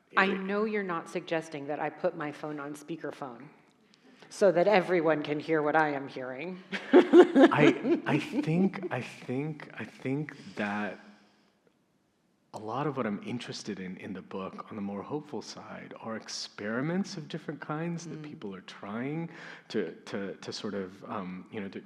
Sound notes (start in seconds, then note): 6.7 laughs